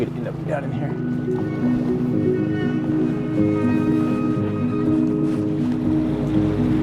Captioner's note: gentle music; engine buzzing